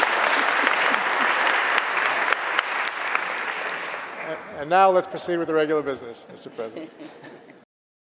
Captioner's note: applause